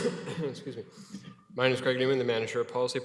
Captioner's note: coughs